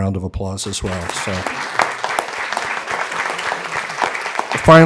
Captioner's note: applause